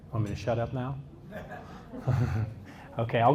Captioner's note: audience laughs